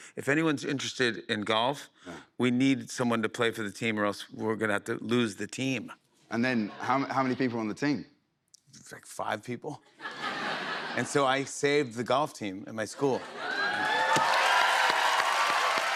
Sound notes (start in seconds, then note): 10.0 laughter; 13.2 cheers and applause